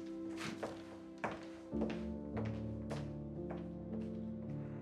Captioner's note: heels clack